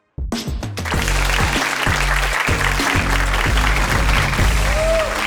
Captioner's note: audience cheering